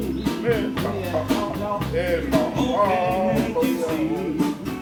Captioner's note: Hawaiian spoken audio